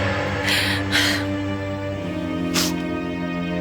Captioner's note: crying